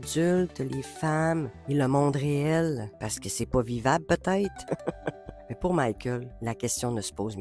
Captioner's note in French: rires